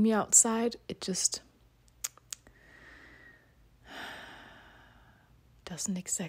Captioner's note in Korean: 아주 긴 한숨